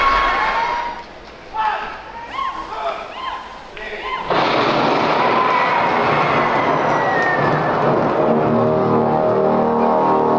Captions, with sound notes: One! Two! Three! [Thunder] [Horns]